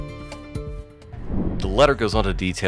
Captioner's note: air whooshes